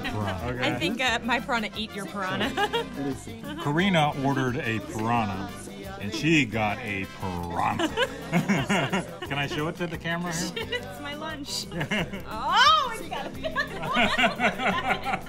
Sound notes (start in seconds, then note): 7.5 both laughing; 12.4 squeals; 13.6 both laughing